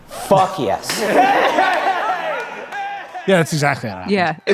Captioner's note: people exclaiming in excitement